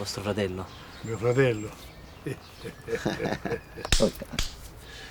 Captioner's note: both laughing